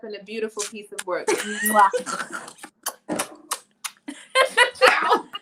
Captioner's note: smooching; laughing